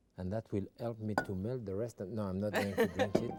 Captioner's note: laughing; serene music